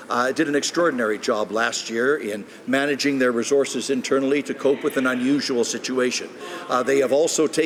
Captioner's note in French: voix de l'interprte